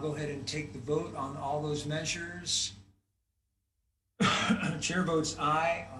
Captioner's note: clears throat